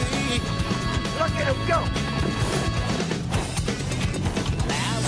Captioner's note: none